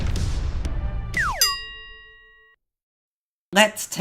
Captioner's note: explosion; bell dings